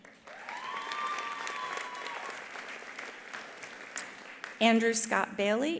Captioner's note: attendees applauding; attendees cheering